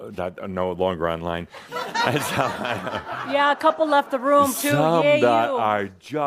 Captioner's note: more chuckles